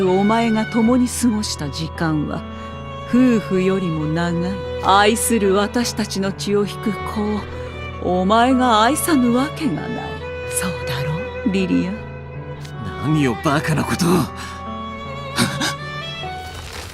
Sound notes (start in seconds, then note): 14.4 gasp